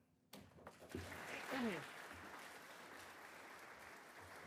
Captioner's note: audience applauds